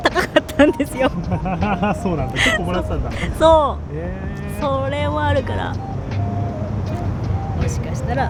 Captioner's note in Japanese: 笑い